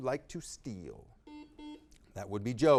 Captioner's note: buzzer beeping